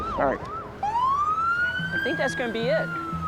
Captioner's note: siren wailing